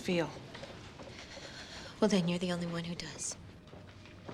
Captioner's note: shuddering